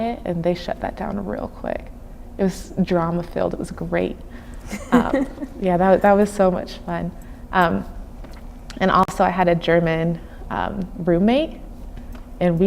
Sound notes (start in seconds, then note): 4.6 laughing